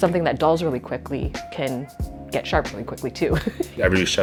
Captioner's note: laughs